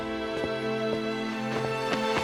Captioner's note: none